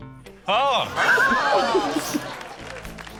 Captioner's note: laughs; applause